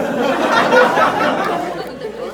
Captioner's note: laughs